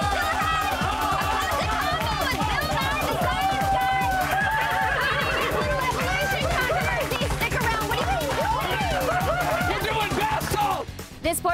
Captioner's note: cheers and applause